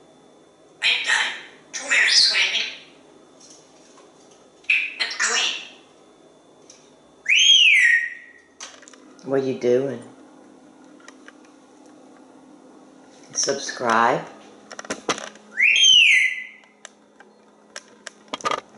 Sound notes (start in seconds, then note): 7.3 whistle; 15.6 whistle